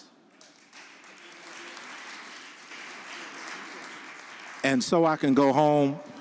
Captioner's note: audience applauding